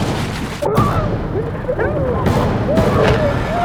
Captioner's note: screaming